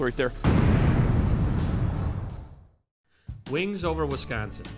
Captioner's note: loud boom